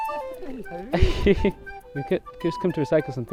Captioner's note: laughing